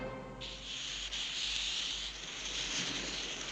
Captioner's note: hissing